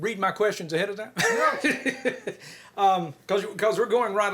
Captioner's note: chuckles